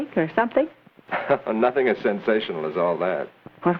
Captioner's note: chuckles